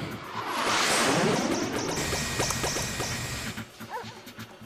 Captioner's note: beeping